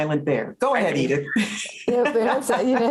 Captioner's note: laughs